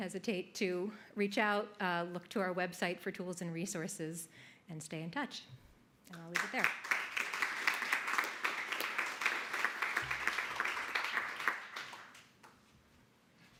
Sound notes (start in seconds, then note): 6.3 audience applauding